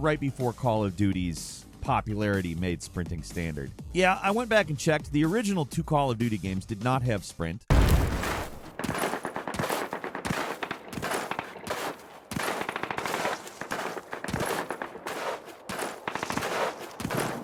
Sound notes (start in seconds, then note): 8.5 distant guns firing; 11.7 feet thudding